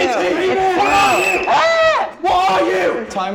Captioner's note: blows whistle